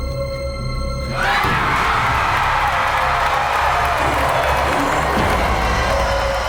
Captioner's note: dramatic music; audience cheering; upbeat music